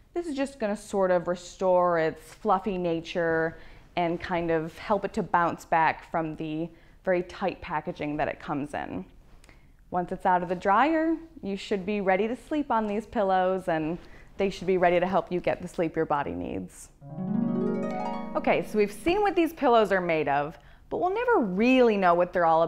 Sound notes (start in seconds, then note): 17.0 chimes